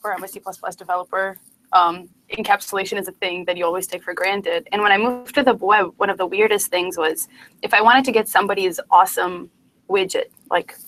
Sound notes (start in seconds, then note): 5.5 distortion